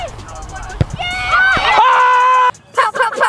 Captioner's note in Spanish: multitud aclamando y gritando